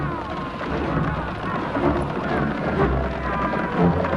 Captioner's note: dramatic orchestral music; horse hooves pounding